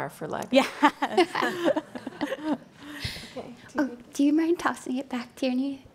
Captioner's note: laughing